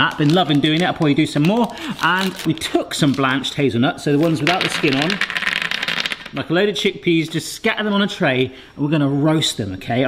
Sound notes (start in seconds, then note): 5.2 hazelnuts tapping